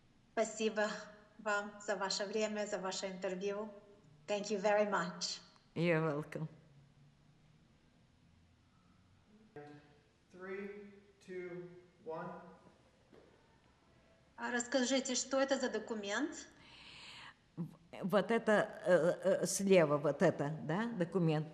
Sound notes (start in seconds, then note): 6.5 pause 7 seconds